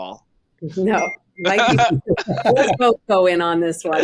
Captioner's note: device chiming; all chuckling